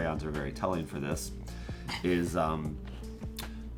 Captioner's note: laughs